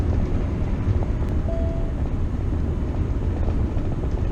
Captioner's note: beep